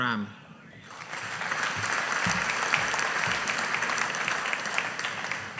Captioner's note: audience applauding